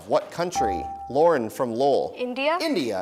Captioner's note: dinging